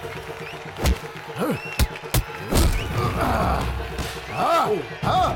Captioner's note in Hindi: तालियाँ